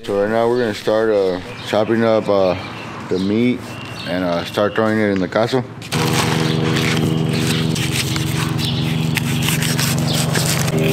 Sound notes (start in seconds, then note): 5.8 paper rustling; 7.6 meat slicing